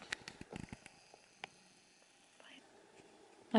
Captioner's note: camer raattles